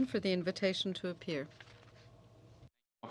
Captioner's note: speaking French